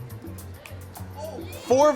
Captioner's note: soft cheering